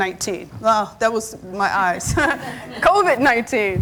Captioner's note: laughs